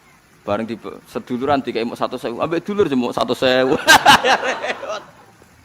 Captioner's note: laughs